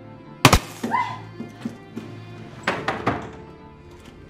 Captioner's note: gunshot popping; Mabel shrieks; shutter clattering